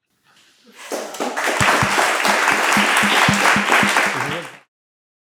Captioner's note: applause